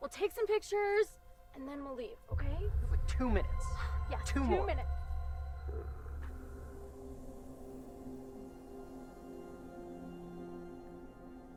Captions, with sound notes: We'll take some pictures and then we'll leave, okay? - You got like two minutes? - Yeah, two minutes. - Two more. (figure growling) (tense music)